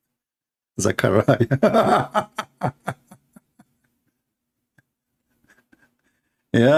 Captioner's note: laughter